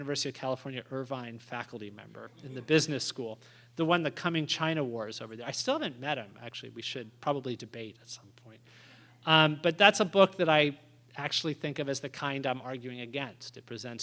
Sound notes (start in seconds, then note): 3.1 laughter